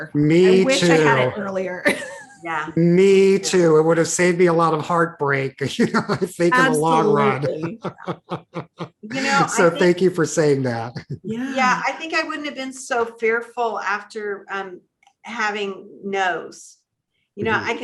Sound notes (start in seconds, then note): 2.8 laughs; 5.6 laughs; 11.1 chuckles